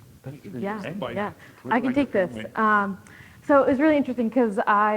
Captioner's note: speaking faintly